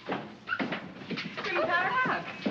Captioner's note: scurrying footsteps; door opens; greets neighbors in German